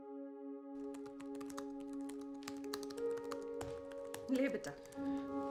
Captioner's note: keyboard clattering